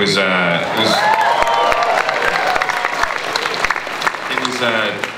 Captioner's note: audience cheering and applause